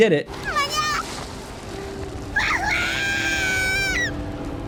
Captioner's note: characters yelling